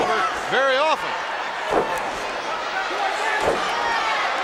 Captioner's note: crowd shout